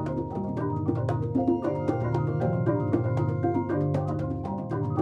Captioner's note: making a sustained, resonant tone